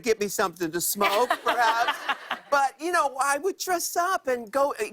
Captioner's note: laughter